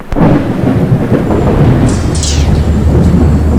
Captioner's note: thunder